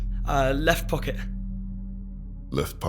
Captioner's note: stammers